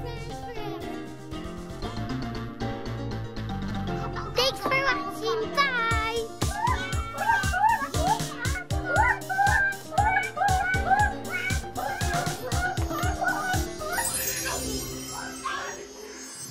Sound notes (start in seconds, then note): 6.1 kids bawling